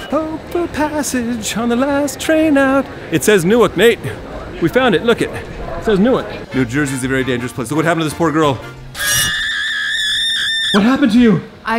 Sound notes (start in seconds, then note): 8.9 screaming